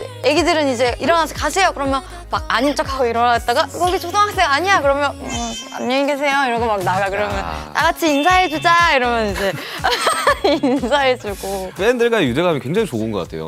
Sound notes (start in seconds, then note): 5.2 aww